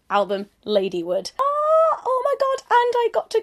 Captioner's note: exclaims